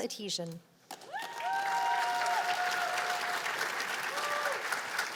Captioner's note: cheers and applause